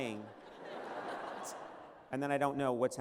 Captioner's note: laughter